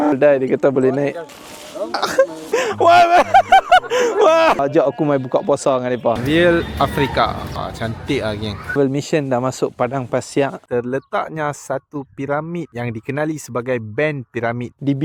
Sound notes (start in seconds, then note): 0.6 laugh